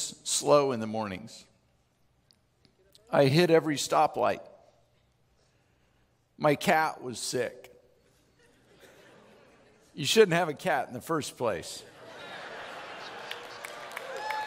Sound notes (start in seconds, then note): 8.0 chuckling; 12.0 chuckling